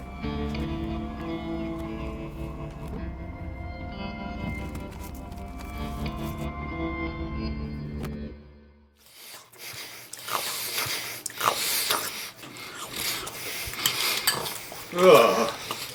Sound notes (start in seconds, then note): 0.3 light music; 9.1 mouth smacking